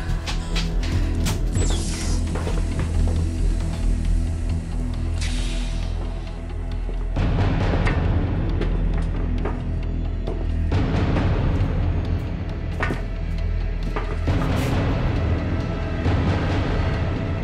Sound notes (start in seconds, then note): 1.4 door hissing; 5.1 foot steps clacking; 5.2 door hissing; 14.1 tense music rising